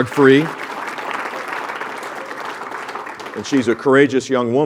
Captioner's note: applause